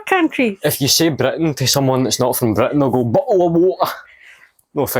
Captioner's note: english Accent